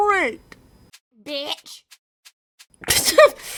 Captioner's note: distant duck; laughs